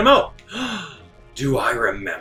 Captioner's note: gasp